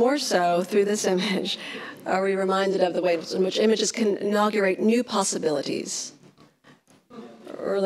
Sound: laughs

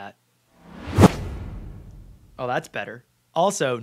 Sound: camera whooshes

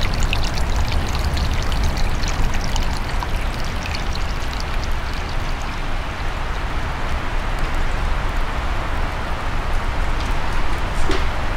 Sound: the sound of water running

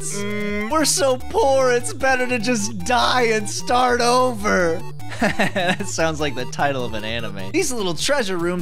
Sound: laughs

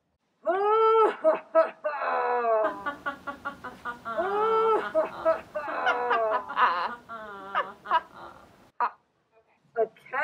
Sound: Lion, Leopard, and Tiger laughing

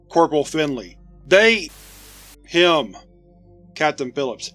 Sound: static

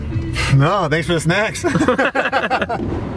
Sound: laughs

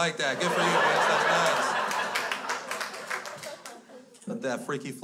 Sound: crowd laughs

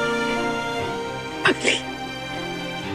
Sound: sniffling

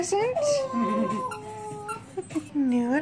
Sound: howl

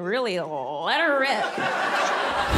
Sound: audience laughing

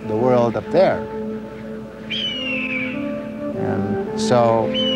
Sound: eagle calls out

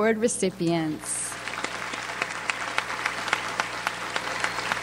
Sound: audience applauds

